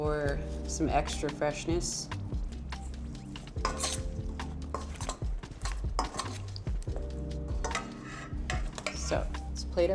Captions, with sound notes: for some extra freshness. (spoon scrapes)